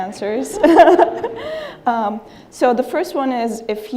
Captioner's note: laughing